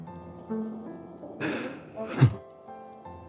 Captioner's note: sighing